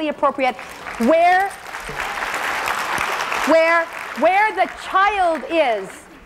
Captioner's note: applause